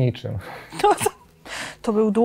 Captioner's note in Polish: śmiech